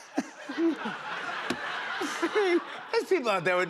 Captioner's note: laughter